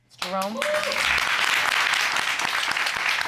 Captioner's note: audience applauding, cheering